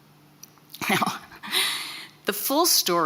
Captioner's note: chuckles